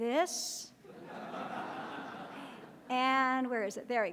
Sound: audience laughs

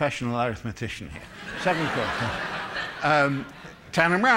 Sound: laughter

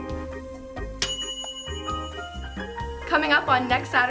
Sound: bell dinging

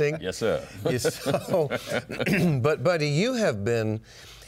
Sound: laughs

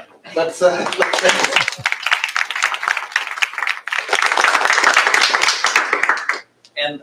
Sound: applause

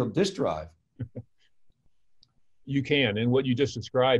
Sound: chuckles

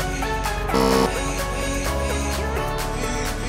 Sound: buzzing

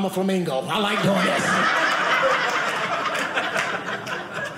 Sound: audience laughing

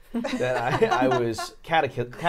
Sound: laughing

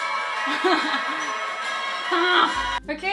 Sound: laughs

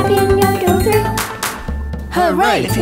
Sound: drum thumping; hands clapping

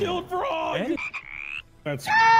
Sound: ribbit

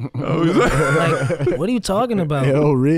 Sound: chuckle

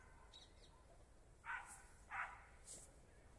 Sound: dog barks

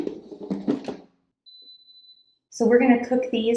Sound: machine beeps

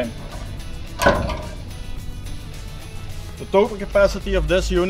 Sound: rack clunks

